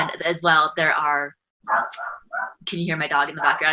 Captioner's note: dog barking